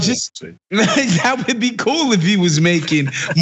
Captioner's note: laugh